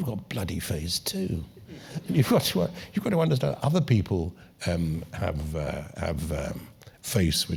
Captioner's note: laugh